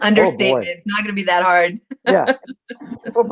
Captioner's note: laughter